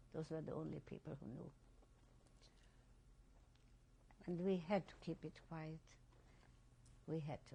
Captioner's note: pauses for 3 seconds